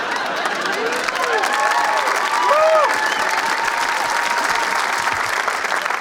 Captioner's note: audience laughs; audience applauds and cheers